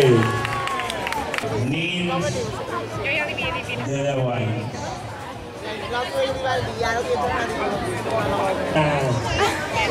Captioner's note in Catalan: El públic xerra